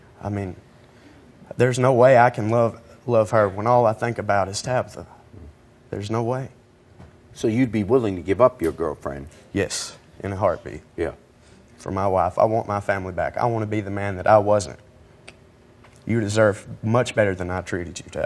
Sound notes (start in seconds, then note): none